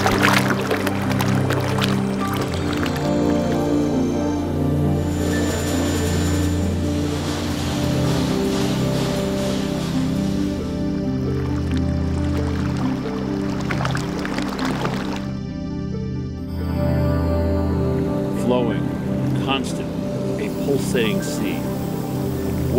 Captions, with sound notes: [WATER FLOWING] [MACHINES WORKING] Flowing, constant, a pulsating sea--